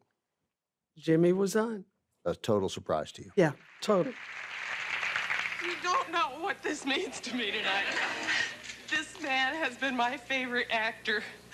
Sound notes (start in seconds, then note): 3.5 audience applauding; 7.7 audience cheering